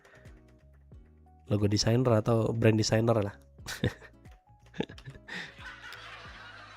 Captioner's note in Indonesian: tertawa